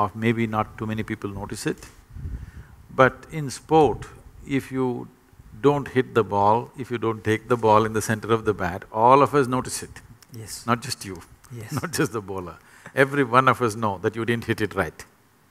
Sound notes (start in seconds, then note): 11.5 laughs